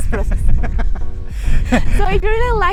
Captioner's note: laughing